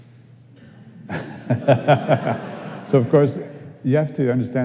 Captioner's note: laughing